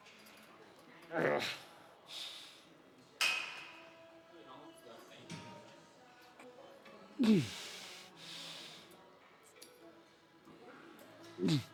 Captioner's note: grunts